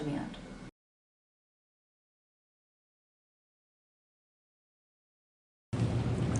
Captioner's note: silence